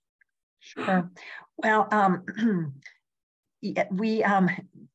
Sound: coughs

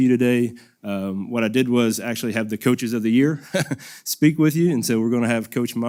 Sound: laugh

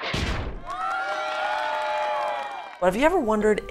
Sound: group cheering

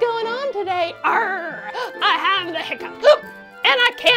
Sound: hiccups

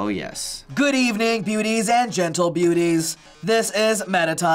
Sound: robotically

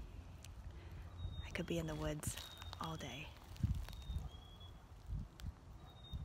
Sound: fades out after listening to more bird song

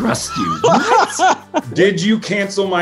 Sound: laughing

